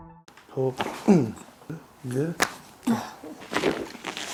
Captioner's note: body cracking